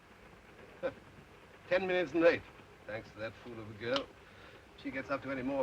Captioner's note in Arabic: يسخر